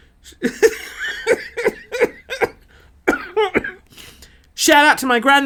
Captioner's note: laughing